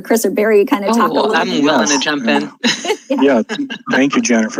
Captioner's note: laughs